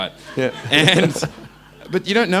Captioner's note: crowd laughing